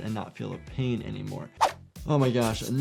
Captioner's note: knife slashes